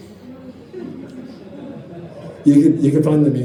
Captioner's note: audience chuckles